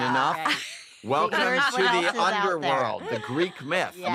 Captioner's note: all chattering, laughing